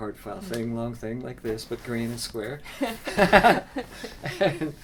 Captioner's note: laughs